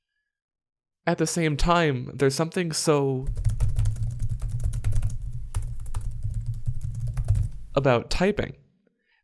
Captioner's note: keyboard noises